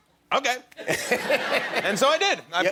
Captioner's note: laughter